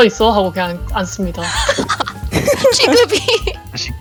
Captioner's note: laugh